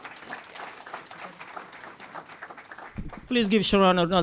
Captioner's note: applause